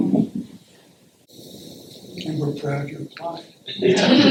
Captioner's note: laughter